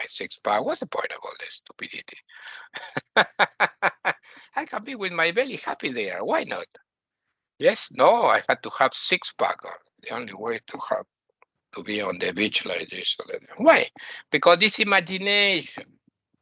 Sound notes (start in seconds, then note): 2.2 laughing